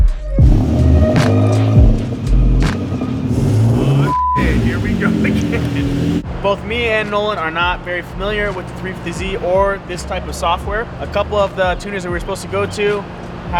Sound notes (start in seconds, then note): 0.4 car engine revving; 4.0 beep